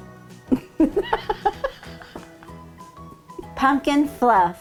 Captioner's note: laughing